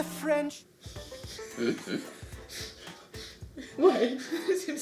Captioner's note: giggling